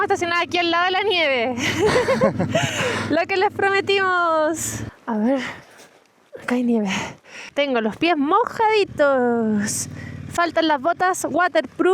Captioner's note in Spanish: risas